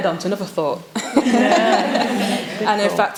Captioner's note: laughter